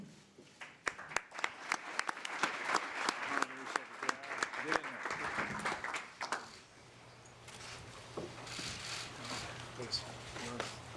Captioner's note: applause